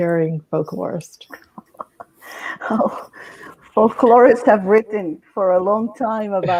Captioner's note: laughing